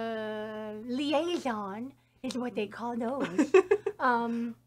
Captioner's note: laughs